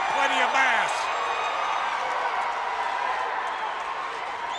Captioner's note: audience cheers